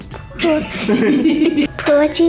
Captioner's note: laughter